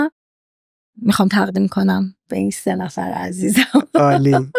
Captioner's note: laughs